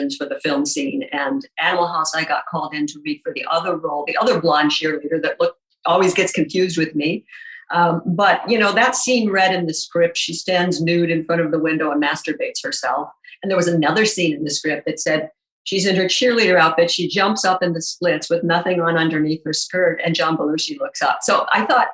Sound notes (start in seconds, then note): none